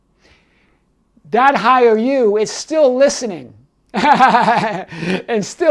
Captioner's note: laughing